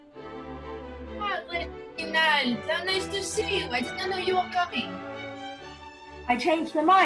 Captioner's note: French accent